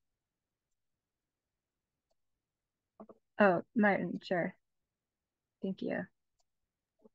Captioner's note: silent pause